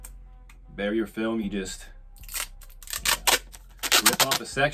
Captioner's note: tape ripping